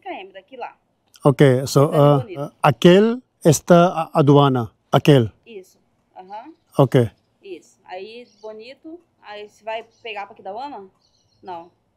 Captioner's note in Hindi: स्पेनिश में बोलना